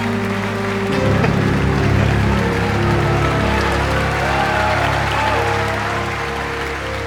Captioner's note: mellow classical music; audience cheering and applauding